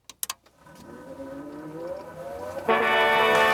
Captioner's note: gate opening; audience applauding